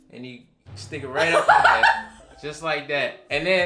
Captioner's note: laughs